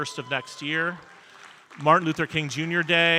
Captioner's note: audience cheering and applauding